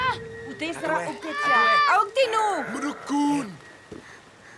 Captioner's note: foreign spoken audio